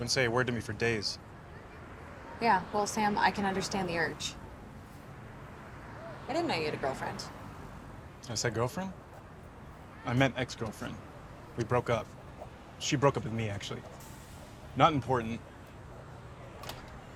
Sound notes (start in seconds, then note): none